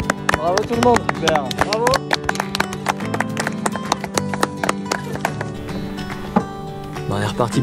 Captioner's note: claps